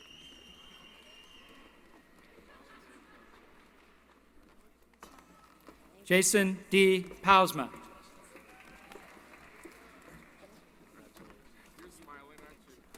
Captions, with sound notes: [ Cheering ] Jason D. Pausma. [ Applause ] >> Your smiling aren't you.